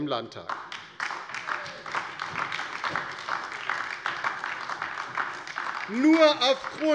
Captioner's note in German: Beifall DIE LINKE